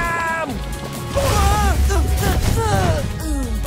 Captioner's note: Amato yelps, groans